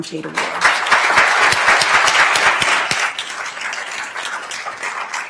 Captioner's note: attendees applauding